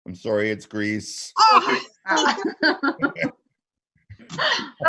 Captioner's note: groaning